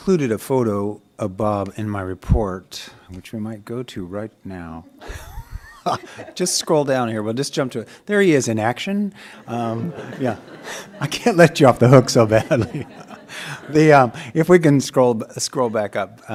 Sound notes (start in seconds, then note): 7.9 laughter